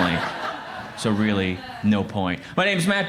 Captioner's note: crowd laughs